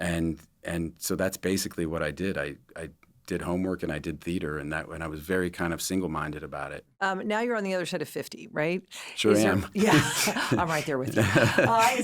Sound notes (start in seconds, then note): 9.4 laughs